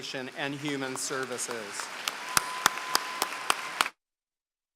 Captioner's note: applause